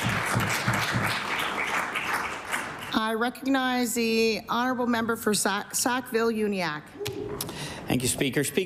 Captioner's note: applause